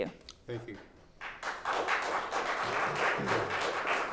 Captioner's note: clapping